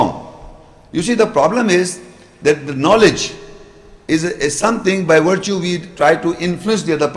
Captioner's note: Arabic